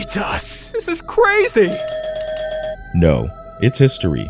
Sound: bells dinging

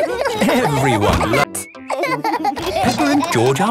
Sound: laughing

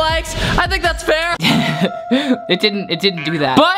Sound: chuckles

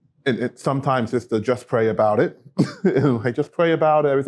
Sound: laughter

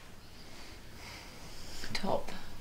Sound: inhales

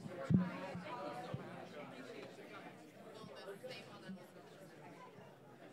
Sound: people chatting indistinctly

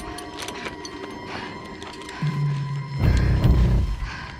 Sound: suspenseful music; Misty panting

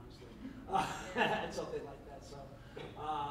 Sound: laughs

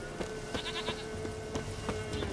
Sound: baa

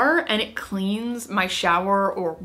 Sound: none

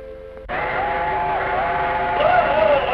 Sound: train whistle blows

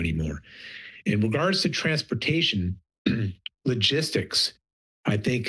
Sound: clears throat

